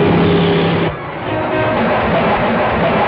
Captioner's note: horn blares; dramatic music